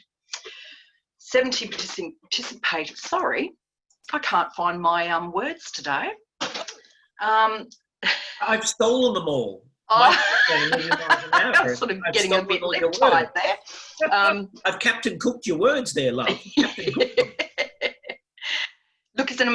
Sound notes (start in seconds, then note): 9.9 laughs